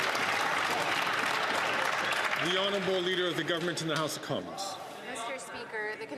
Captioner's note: applause